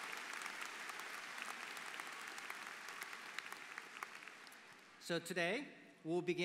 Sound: applause

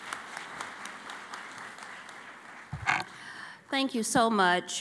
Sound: applause

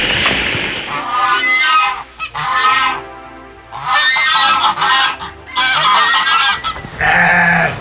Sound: deer hisses; geese hooting; goat meows

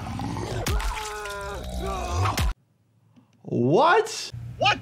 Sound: fighter screams

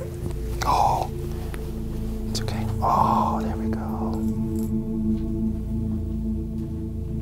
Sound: whispers

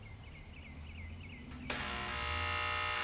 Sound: door bell buzzes

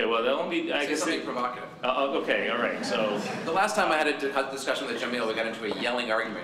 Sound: laughter

